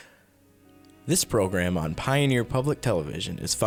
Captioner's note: voiceover